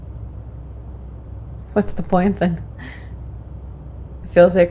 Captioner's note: laughs softly